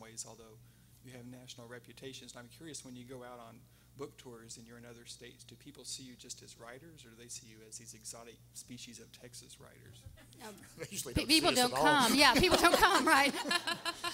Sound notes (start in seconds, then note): 10.1 everyone laughing